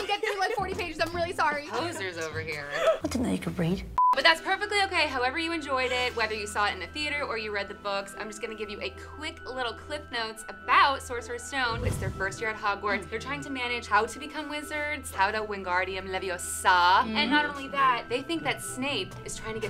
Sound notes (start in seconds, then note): 4.0 beep; 11.7 air whooshing